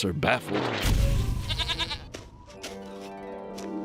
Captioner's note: bleats